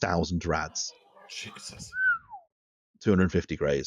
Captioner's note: someone whistles